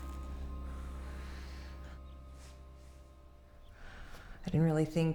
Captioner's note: Anne exhales